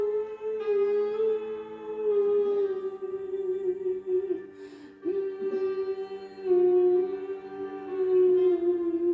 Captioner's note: humming